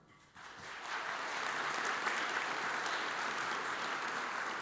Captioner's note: audience applauds